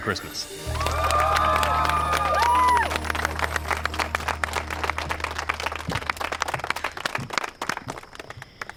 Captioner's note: cheering, applause